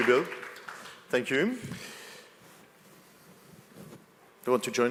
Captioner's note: applause